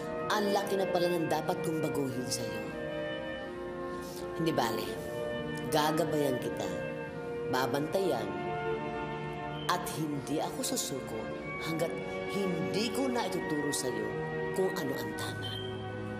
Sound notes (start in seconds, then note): none